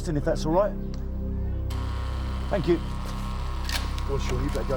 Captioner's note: door buzzes